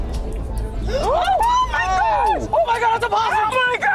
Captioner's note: group screaming